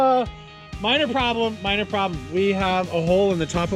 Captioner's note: laughs